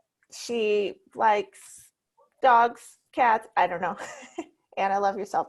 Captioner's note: chuckles